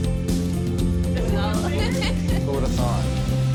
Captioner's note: laughter